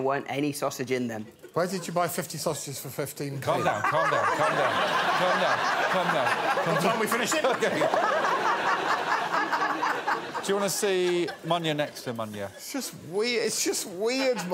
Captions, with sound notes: and as you can imagine, there weren't any sausage in them. Where did you buy 50 sausages for 15p? Calm down, calm down, calm down. Calm down, calm down. What time we finishing? [laughter] Do you wanna see Munya next to Munya?